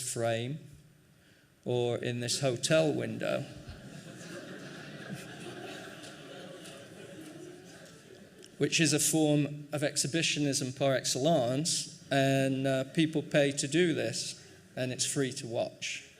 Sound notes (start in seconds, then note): 3.6 laughing